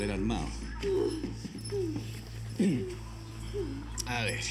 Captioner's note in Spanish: gemidos de ella